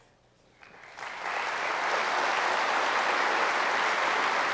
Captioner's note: applause